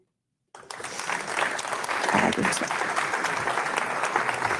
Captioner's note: audience clapping